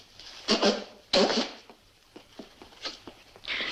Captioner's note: blowing nose